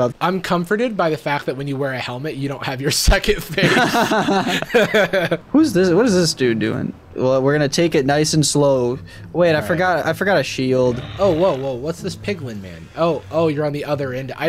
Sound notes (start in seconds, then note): 3.5 everyone laughs